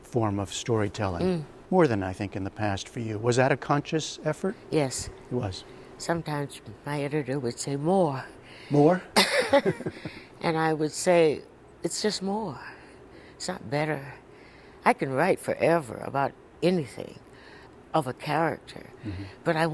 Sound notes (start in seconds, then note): 9.2 laughter